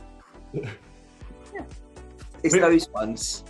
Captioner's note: chuckles